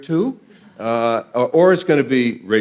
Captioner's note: audience laughing